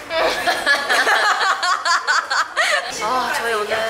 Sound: laughing

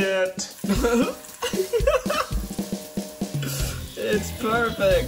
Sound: laughs

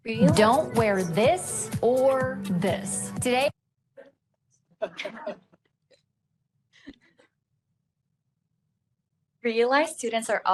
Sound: laughing

